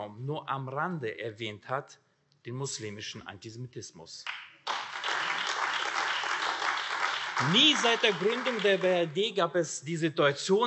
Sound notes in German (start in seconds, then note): 4.6 Beifall AfD